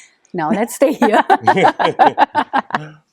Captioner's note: laughing